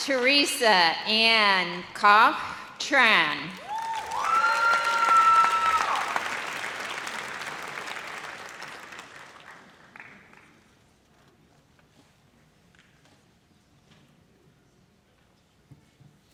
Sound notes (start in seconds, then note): 3.6 audience cheers